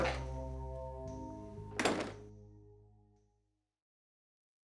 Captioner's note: sound of door opening and closing